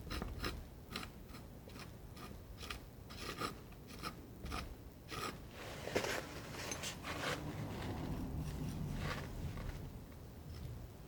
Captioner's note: scratching